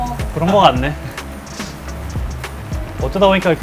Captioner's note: ahem